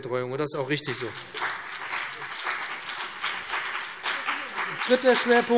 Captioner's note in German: Beifall BÜNDNIS 90/DIE GRÜNEN und CDU